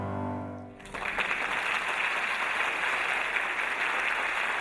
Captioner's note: audience applauding